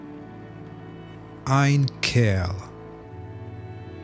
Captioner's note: german